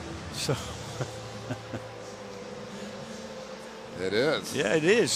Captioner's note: laughs